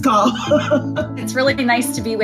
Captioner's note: laughs loudly